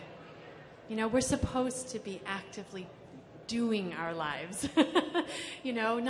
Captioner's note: laughs